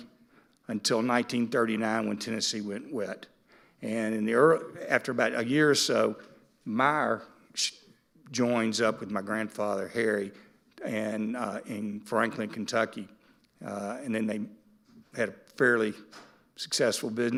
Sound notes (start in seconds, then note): none